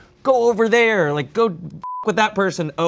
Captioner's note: beep